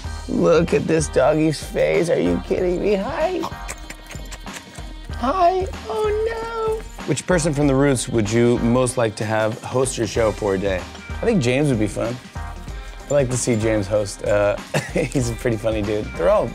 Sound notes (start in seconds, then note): 3.4 exaggerated kisses